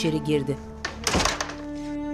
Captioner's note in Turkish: Kapı kapanma sesi